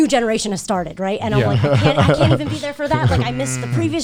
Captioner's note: chuckling